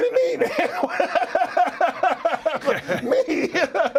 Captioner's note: laugh